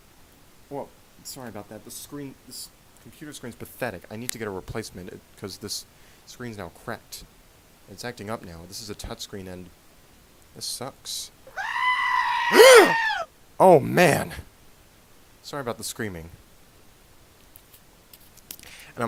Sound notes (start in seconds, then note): 11.4 scream; 12.5 gasps